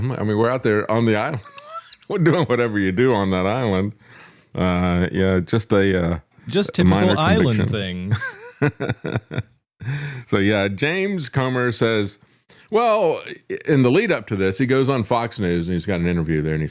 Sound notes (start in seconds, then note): 8.2 laughing